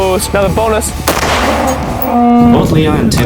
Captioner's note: gun bangs